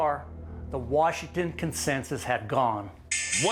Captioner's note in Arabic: رنين الجرس